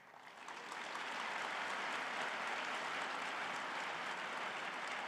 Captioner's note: audience applauding